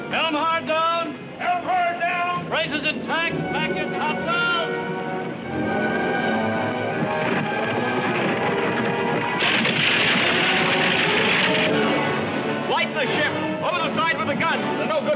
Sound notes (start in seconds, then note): 7.5 ship scraping; 7.5 wood clattering